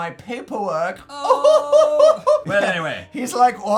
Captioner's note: suggestively laughs in high-pitched tone